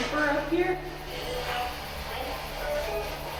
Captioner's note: spirit box voice